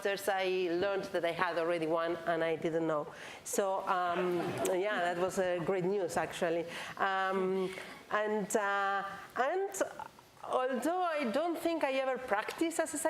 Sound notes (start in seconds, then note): 3.5 laughs